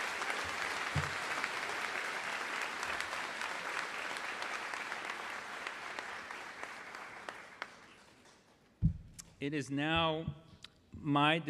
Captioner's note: applause